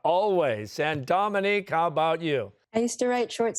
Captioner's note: chuckling